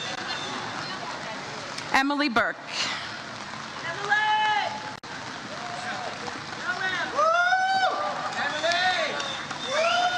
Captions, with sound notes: Emily Burke. (audience cheers)